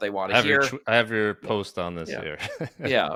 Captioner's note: chuckles